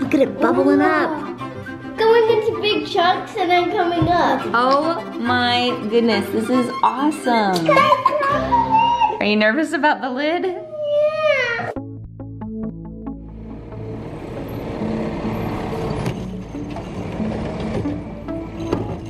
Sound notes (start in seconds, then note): 7.6 kids giggling; 12.6 soft music; 12.9 truck running